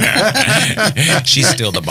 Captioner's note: laughing